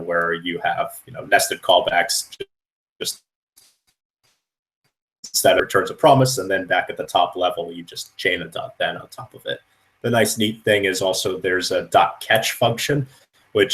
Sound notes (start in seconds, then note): 2.6 static